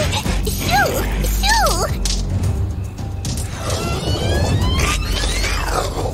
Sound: screaming

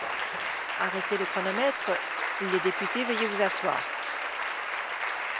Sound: applause

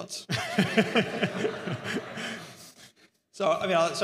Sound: audience laughs

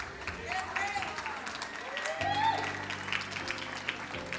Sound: crowd cheering

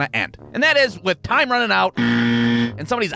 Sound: horn sound

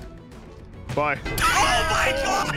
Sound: laughs

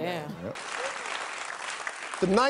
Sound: audience applauds

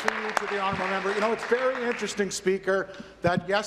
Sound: applause

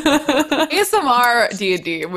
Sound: laughing

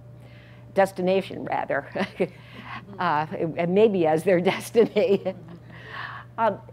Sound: laugh

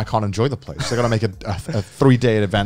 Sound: laughing

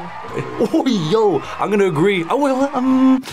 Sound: laughs

